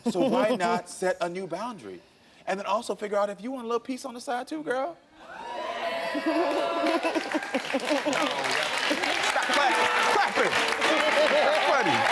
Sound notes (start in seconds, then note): 5.3 audience reacting; 8.4 audience applauds; 10.9 laughs